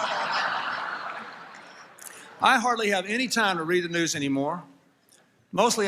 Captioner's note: applause, Laughter; laughter